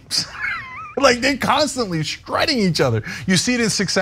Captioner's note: laugh